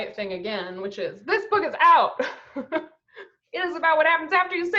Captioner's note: laughs